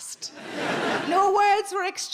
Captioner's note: audience laughing